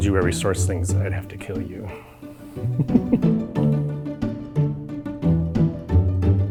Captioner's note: laughs